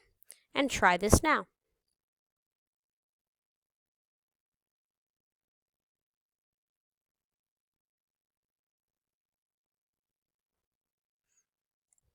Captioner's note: silence